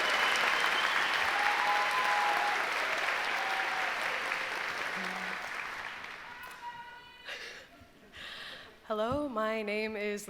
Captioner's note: applause